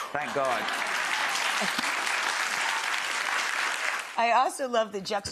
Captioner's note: audience applauding